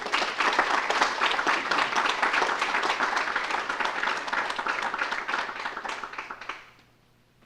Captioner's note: applause